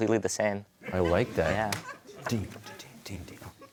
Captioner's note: audience laughter